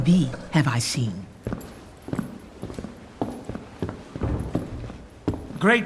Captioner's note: footsteps approaching